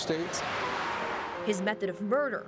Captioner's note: truck drives